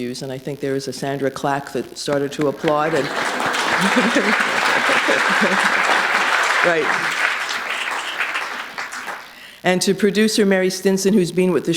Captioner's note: applause